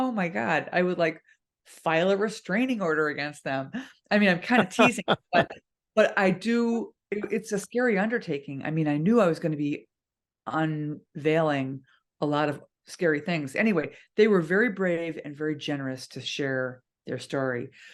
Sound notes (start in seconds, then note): 4.7 laugh